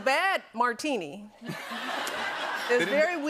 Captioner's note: laughter